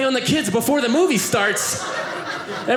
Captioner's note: audience laughing